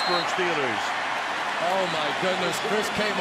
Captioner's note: cheering